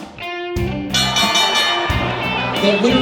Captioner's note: bell ringing